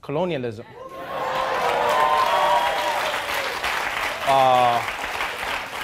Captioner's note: audience cheering and applauding